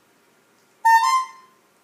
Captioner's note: bulb horn